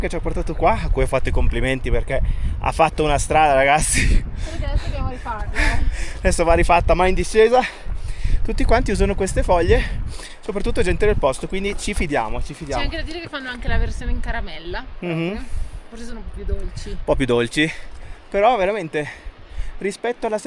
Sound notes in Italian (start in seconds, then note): 5.5 risate